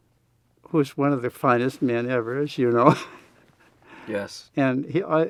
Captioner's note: laughs